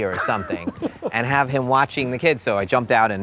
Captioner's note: laughs